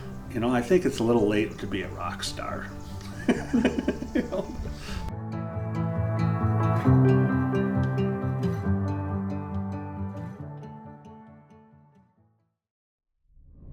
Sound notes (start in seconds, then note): 3.0 participant laughs; 6.1 bright music